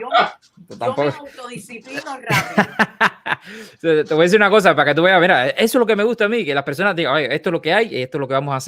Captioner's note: laughs